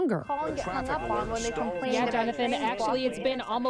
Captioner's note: reporters chattering